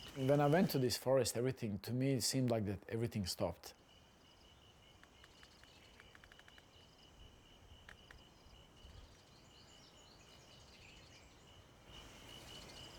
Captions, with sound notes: And then I went to this forest, everything to me, it seemed like everything stopped. (insects buzzing) (birds chirping)